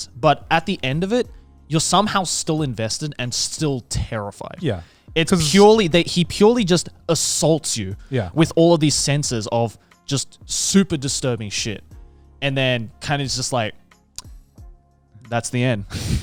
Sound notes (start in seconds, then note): none